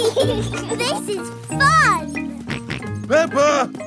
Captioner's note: both laughing; george snorts